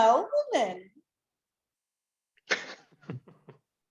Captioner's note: laughs